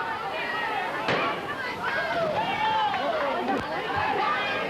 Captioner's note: gunshot